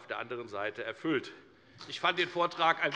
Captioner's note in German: Beifall bei der FDP